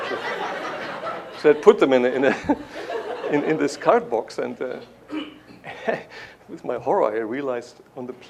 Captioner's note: laughter; chuckles